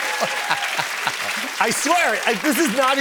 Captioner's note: cheers and applause; normal voice